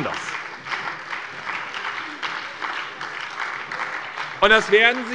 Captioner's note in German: Beifall bei der SPD